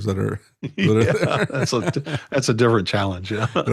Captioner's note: laughing